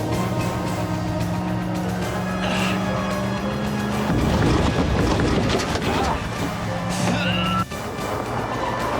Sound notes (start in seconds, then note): 4.9 groans